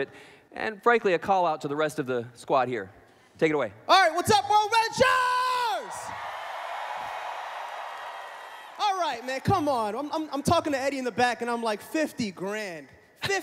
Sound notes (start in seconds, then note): 7.9 cheering